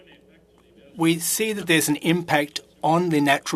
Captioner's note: speaking French